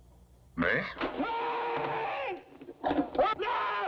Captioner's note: screaming